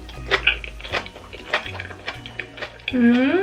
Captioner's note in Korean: 김치 아삭아삭한 소리